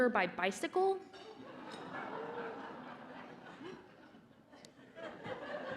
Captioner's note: laughter